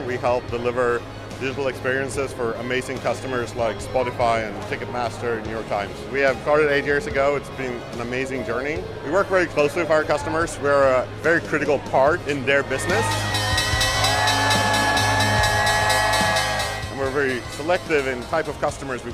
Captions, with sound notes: We help deliver digital experiences for amazing customers like Spotify and Ticketmaster and New York Times. We have started eight years ago. It's been an amazing journey. We work very closely with our customers. We're a very critical part in their business (cheering) And we're very selective in type of customers